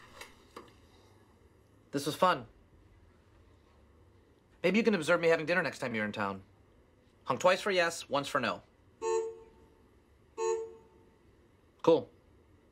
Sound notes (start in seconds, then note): 8.7 honk; 10.4 second honk